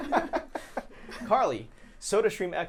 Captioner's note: laughing